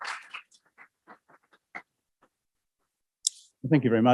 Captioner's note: applause